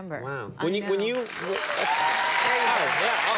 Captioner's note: audience cheer